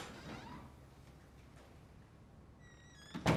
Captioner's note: door creaks